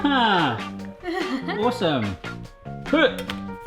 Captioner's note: chuckle